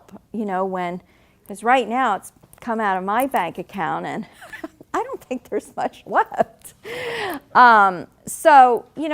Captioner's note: laughing